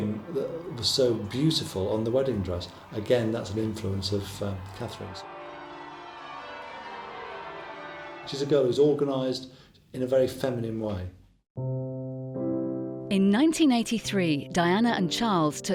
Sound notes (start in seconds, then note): 5.2 bells tolling; 5.7 crowd cheering; 11.6 gentle music